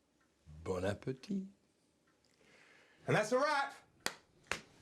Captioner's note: guy speaking in foreign language